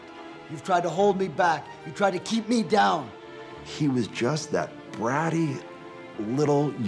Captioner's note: none